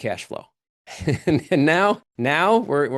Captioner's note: laughs